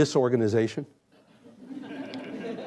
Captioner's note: laughter